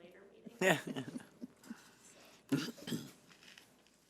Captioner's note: chuckling